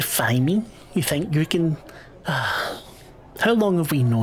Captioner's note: sighs